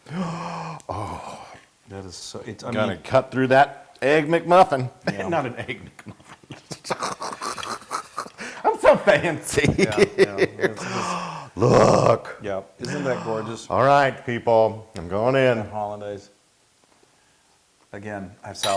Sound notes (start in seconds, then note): 5.0 laugh